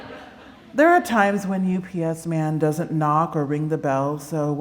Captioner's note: laughter